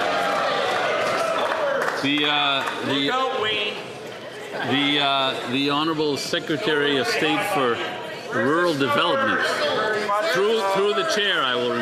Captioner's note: some Applause